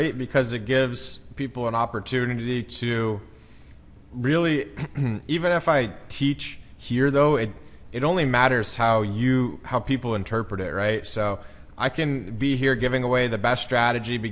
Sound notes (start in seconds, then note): 4.7 clears throat